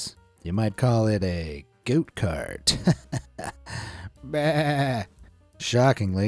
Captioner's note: laughs